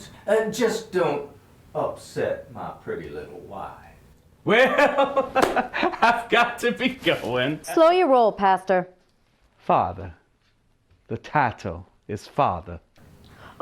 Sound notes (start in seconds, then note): 4.5 laughter